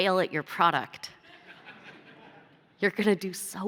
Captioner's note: laughter